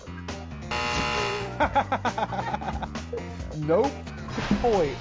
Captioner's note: buzzer buzzes; laughing